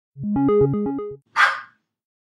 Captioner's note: start sound, dog barks